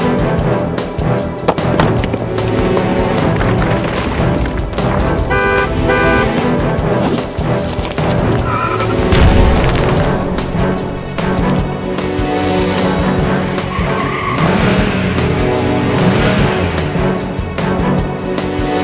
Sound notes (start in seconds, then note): 5.1 car honking; 8.0 tires screeching; 8.8 boulder crashing; 14.2 engine revving